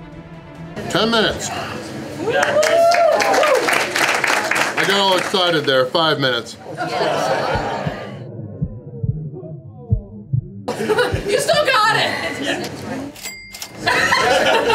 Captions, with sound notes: 10 minutes. I got all excited there. 5 minutes. Yes. (crowd laughter) [Crowd] You still got it!!